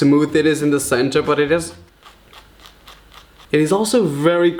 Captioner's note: scratches marshmallow